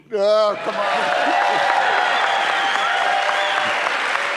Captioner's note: crowd cheering